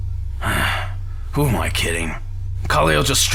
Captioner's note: sighs